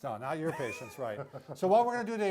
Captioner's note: laughs lightly